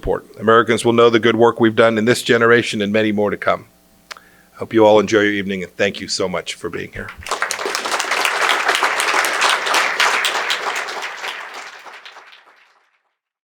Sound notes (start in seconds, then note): 12.3 applause